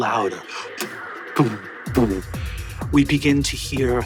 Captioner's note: Brennan mimics music thumping